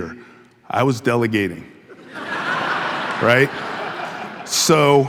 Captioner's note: audience laughing